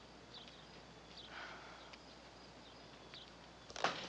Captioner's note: Pat sighs